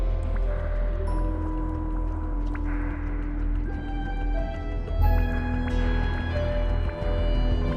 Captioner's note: soft bubbling